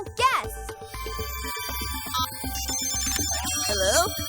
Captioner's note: phone rings